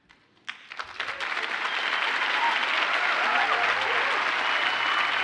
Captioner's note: audience cheers and applauds